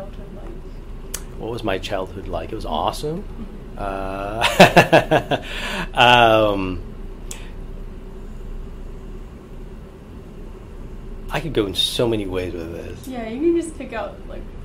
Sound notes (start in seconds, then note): 6.9 laughs